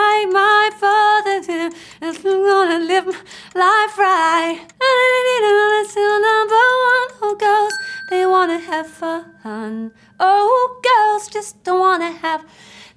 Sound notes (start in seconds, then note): 4.9 vocalizing melody; 7.6 bell dinging